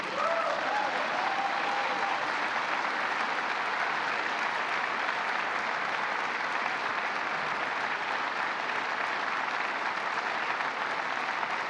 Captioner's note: applause